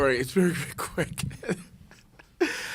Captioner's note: laughs